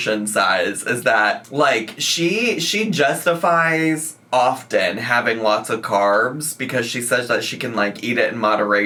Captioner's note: none